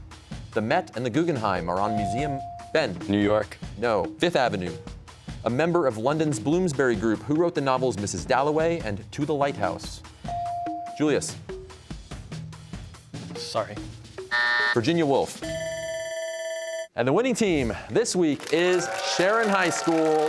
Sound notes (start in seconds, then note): 14.2 buzzer sounds; 15.6 bell rings